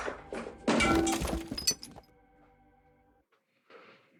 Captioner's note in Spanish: Estruendo